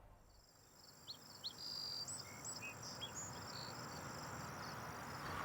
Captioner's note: birds chirping